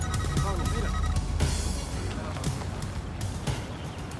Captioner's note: type beeping